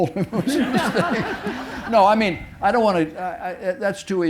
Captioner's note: audience laughing